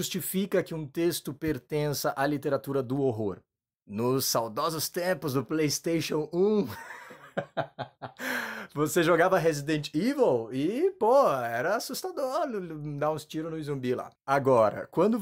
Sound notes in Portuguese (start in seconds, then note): 6.6 Risos